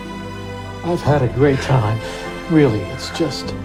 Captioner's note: voiceover